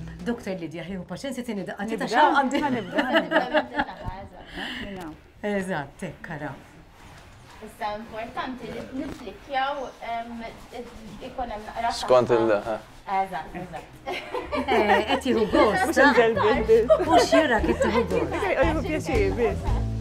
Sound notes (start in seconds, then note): 2.5 laughs; 13.5 laughter